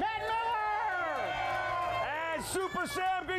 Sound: audience cheering

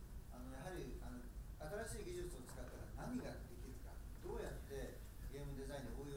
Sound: speaking in foreign language

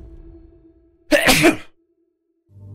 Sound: sneeze

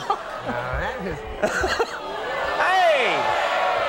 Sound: Conan and audience laughing; Conan laughing; audience booing

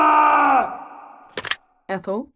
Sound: phone pick-up

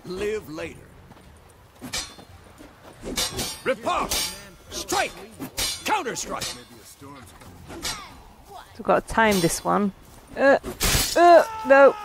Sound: laughing

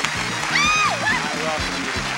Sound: cheering

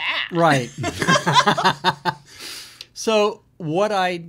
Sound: both laugh

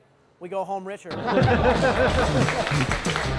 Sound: laughing; rock music playing

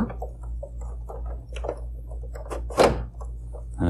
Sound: clunks

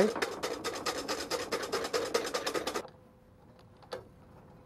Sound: whisk tapping

